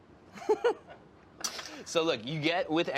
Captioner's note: laughs